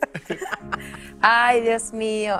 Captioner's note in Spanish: risas